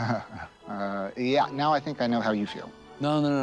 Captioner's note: laughs